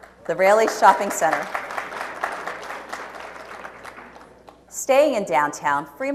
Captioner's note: audience applauds